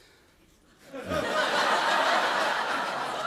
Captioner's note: laughter